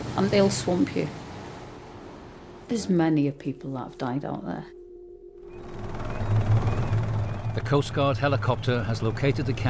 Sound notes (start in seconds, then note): 3.6 intense music; 5.4 helicopter whirring; 5.5 birds squealing